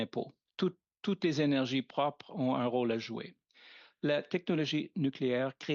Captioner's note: speaking French